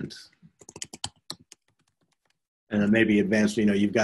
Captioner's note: computer keyboard clacking